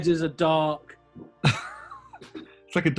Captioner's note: chuckling